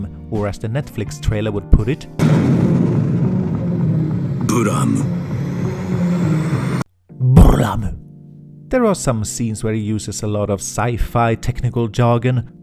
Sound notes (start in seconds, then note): 4.5 pronounces in Japanese